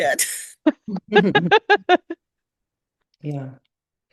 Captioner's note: laughs